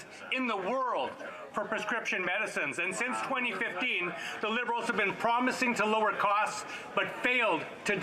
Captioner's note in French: voix de l'interprète